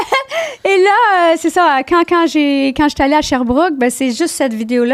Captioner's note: in french